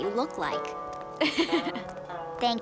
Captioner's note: laughing